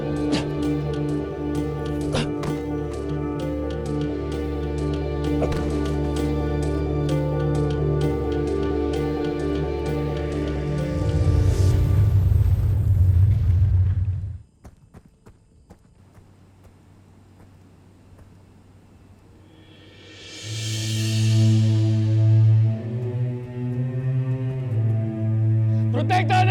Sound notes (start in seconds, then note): 1.6 groans; 11.4 fire crackling; 14.5 footsteps padding; 20.2 heavy music playing